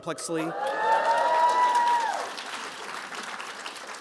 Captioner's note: audience cheering